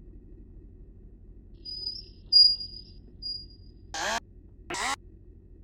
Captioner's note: wheels screeching